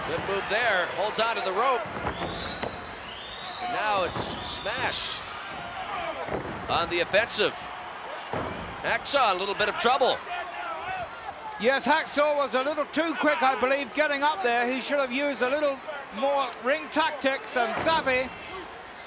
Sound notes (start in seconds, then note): none